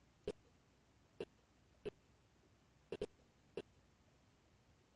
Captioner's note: audio skipping